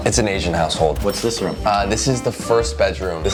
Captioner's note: cash register chiming